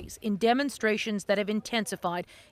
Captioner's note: crowd noise